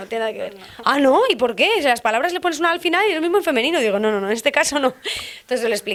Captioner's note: laughs